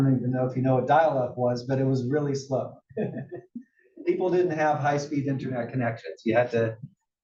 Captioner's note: laugh